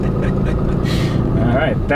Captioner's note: laughing